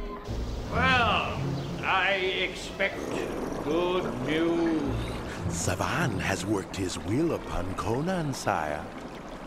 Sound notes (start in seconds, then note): 0.6 dark orchestral music; 5.7 grumbling